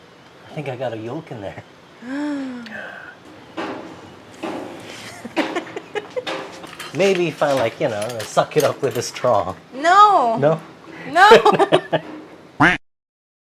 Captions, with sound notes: I think I've got a yolk in there [sister gasps] Maybe if I like, you know, suck it up with a straw... No! No? NO!!